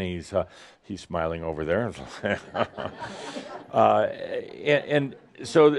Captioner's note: some laughter